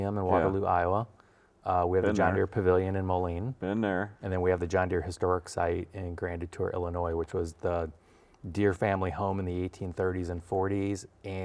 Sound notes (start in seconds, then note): none